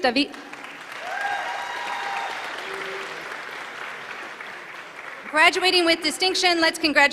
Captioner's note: applause